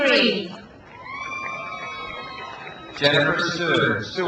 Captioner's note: crowd cheers